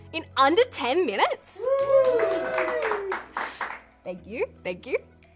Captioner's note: audience cheering and clapping